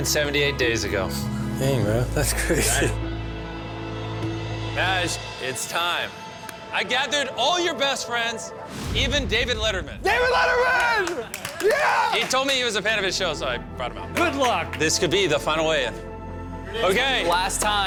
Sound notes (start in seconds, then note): 10.1 screaming